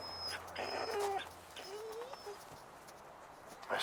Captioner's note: Buck whining